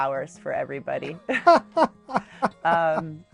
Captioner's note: laughing